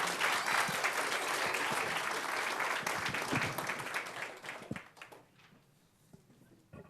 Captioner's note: applause